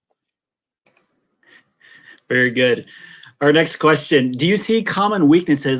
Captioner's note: laughter